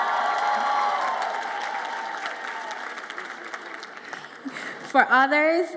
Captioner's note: audience applauds and cheers